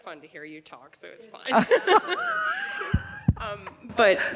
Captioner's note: laughing